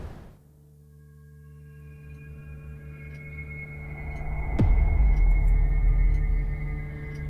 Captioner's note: brooding music; clock ticking